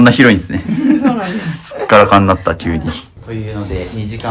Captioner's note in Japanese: 笑い